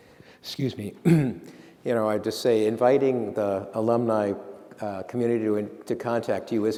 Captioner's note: clears throat